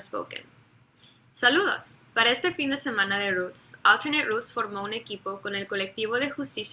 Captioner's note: speaks in foreign language